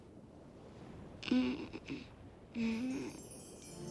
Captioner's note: groaning